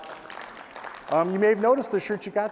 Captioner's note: applause